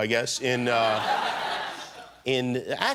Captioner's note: laughter